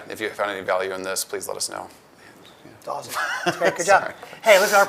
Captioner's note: laughs